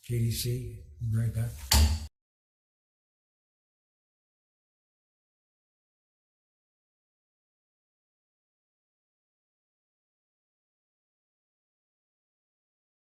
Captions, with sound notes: We'll be right back. (gavel thuds)